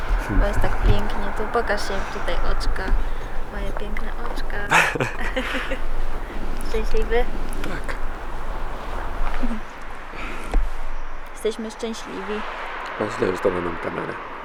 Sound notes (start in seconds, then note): 4.4 laughs